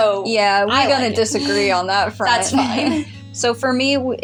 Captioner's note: chuckle